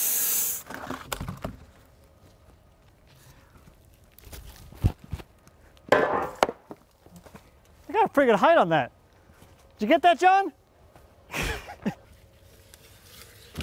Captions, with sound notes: I got a pretty good height on that. Did you get that, Jon? (chuckles)